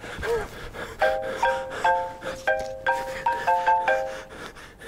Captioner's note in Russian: звонок телефона